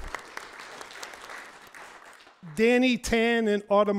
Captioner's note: audience applauds